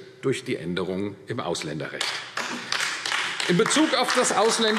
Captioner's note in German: Beifall AfD